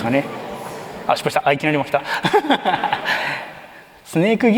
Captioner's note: laughs